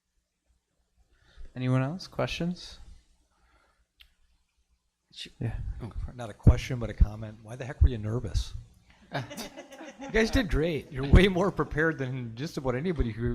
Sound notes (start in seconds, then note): 9.0 committee laughing